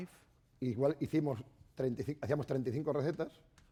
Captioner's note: speaking spanish